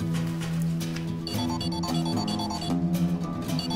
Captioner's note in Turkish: Telefon çalıyor